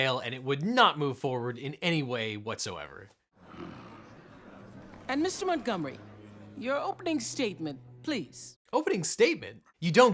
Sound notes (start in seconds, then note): 3.4 sighing